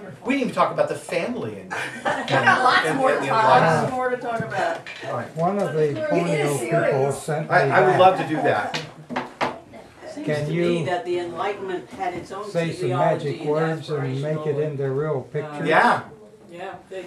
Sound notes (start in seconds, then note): 1.7 audience laughing